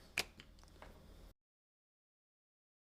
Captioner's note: silence